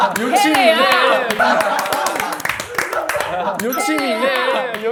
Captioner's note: haha